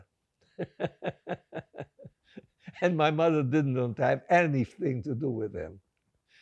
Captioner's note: laughing